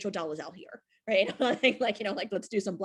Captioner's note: laughs